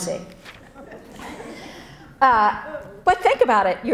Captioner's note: audience laughs